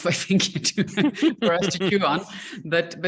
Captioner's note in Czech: smích